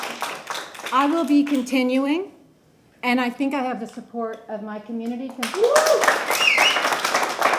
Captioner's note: applause